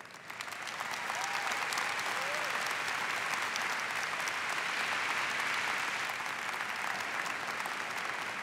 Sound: applause

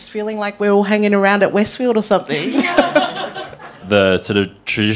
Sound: panellists laugh

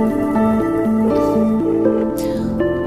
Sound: phone line ringing

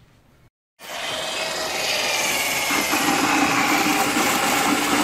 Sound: electric tool whirring

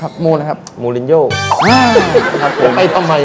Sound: laughiung sound

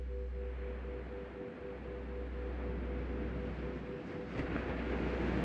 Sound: waves breaking distantly

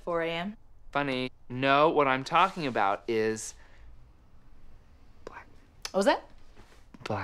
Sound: whispers

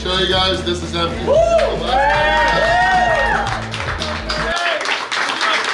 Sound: cheering and clapping

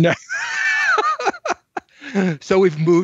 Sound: laughs

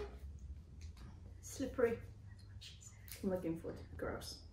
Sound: whispers

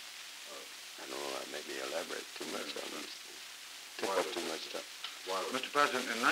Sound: Truman, mumbling

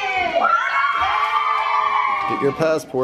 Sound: kids cheering

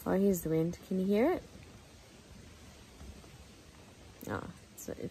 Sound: wind in trees noise

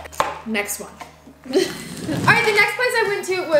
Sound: laughs

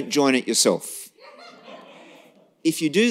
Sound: laughter

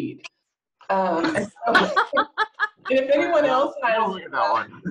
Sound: laughter

